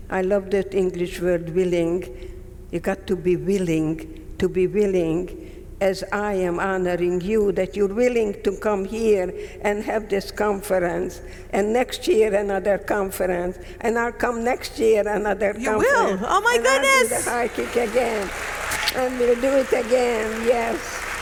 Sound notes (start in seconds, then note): 18.3 audience clapping; 18.3 lips smacking